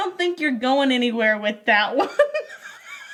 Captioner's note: laughs